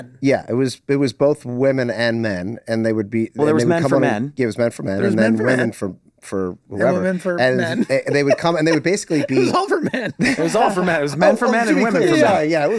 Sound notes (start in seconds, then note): 7.5 laughs